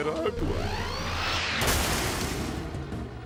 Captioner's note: explosion; mechanical whirring